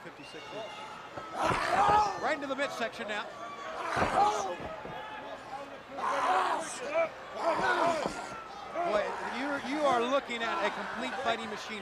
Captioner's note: crowd chatter